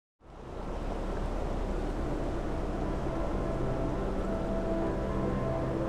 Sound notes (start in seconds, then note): 0.3 wind howling; 1.1 ambient music